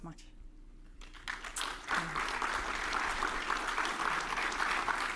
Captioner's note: audience applauding